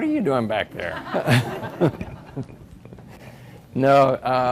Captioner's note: everybody laughs